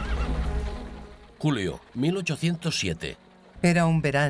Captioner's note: horse neighing; intense orchestra music